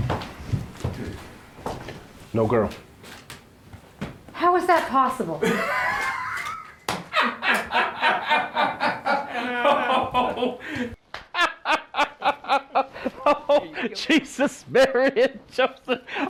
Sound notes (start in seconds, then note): 5.4 eruption of laughter